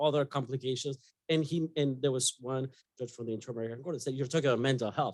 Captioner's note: speaking faintly